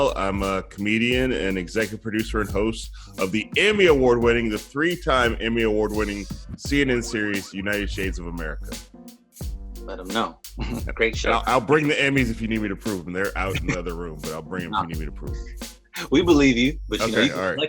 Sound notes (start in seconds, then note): 10.6 giggling